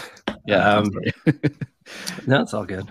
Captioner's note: laughing